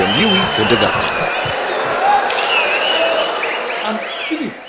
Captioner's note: wild applause and cheering for 22 seconds